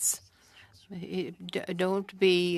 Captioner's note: speaking French